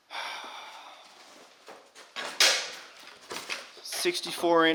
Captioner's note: sighing deeply